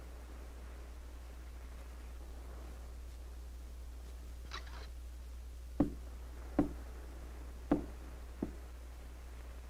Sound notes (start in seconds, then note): 5.5 faint tapping on door